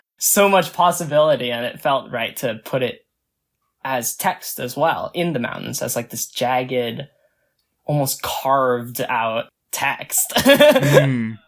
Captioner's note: laughs